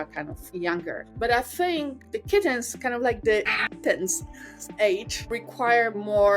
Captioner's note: meow